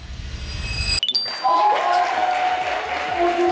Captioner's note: clapping